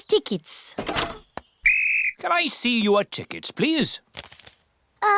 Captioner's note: blows whistle